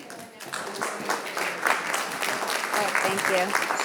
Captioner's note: audience applauding